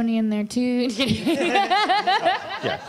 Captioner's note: laughter